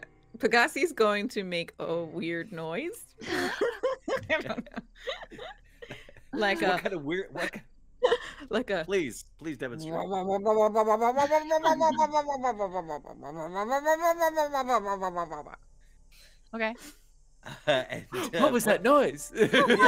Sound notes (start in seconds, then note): 3.2 all chuckling; 11.0 Aliza whirs